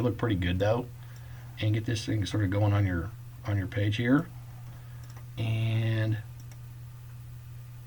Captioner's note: clicking